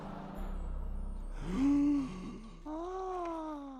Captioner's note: gasp!